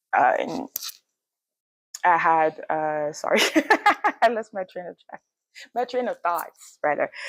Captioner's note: laughs